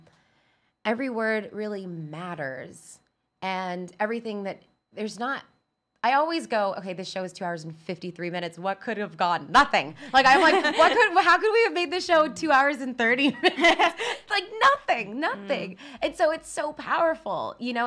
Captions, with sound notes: Every word really matters and everything that, there's not, I always go, "Okay, this show is two hours and 53 minutes, "what could have gone?" Nothing. Like, I'm like, (women laughing) "What could have, "How could we have made this show two hours and 30 minutes?" (laughs) Like, nothing, nothing. And so it's so powerful, you know